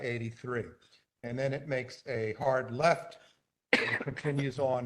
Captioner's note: cough